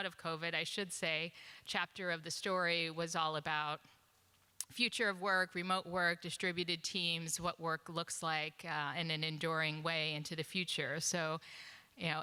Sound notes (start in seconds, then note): none